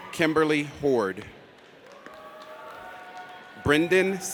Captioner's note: audience cheers